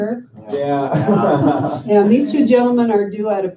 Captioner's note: laughter